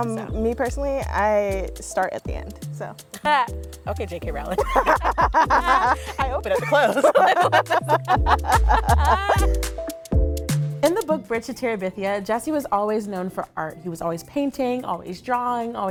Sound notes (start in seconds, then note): 0.0 upbeat hip-hop music; 4.4 laughing; 4.4 people laughing; 9.4 upbeat electronic music